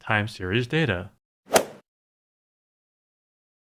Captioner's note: swoosh